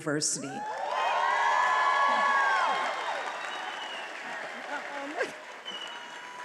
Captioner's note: attendees applauding and cheering